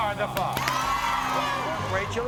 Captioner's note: crowd cheers